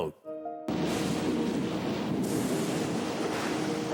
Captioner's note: thunder crashing